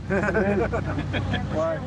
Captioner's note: laughter